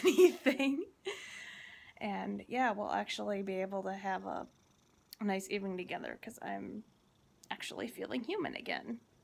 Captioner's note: laughs